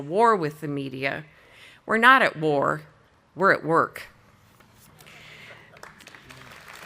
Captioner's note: audience applauding